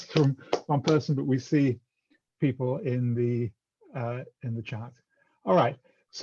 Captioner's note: applause